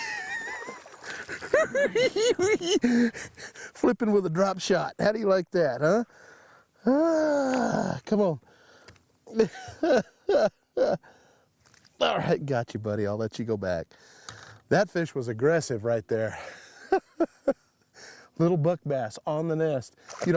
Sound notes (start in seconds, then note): 0.3 cackling; 6.8 sighs